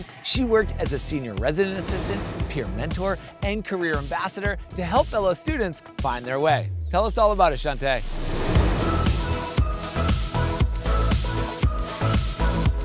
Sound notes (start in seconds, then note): 8.0 air whooshing; 9.5 bright upbeat music